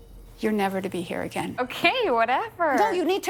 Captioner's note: laughing